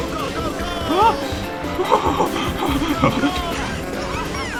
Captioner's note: relief laughter